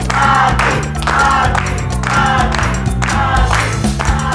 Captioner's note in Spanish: grito